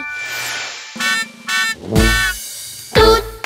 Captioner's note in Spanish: Sonido de bocina